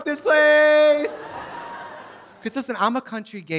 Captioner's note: audience laughing